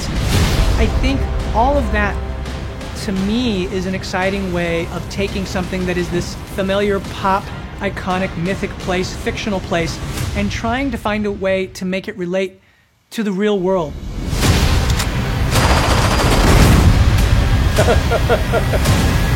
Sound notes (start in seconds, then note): 14.0 intense music plays; 17.7 chuckles